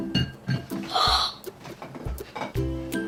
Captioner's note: gasps